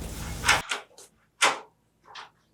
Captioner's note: door opens